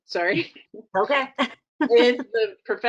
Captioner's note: laughing